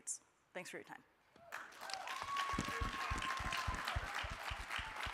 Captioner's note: crowd applauding